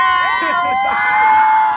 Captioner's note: people celebrating and shouting and laughing